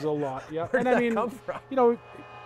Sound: laughs

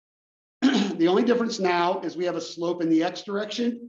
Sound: cough

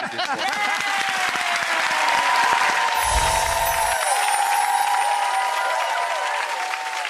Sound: laughter; applause

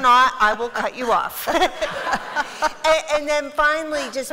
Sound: laughter

